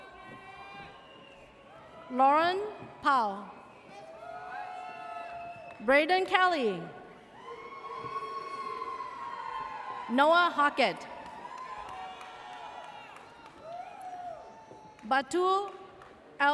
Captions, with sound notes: (audience cheers) Lauren Powell. (audience cheers) Braden Kelly. (audience cheers) Noah Hawkett. (audience cheers) Batu L Alama.